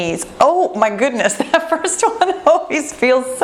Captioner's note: laughing